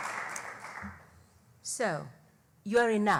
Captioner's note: applause